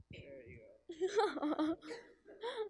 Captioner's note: laugh